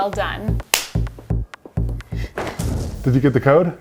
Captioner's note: hands slap